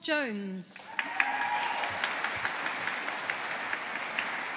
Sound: audience applauding

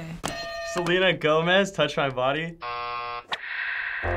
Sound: buzzer; buzzer; static; synthesizer playing

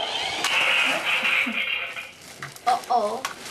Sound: toy engine revs; crashing

